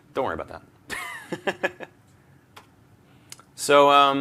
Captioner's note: laughter